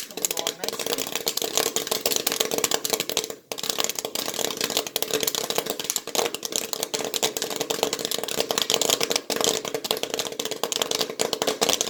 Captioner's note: loud popping sounds